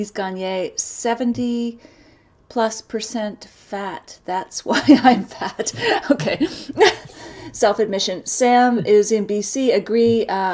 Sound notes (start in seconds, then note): 4.8 chuckles